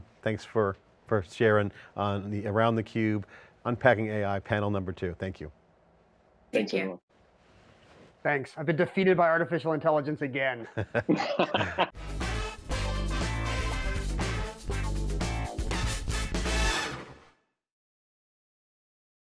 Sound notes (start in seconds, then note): 10.8 all laugh; 11.9 upbeat music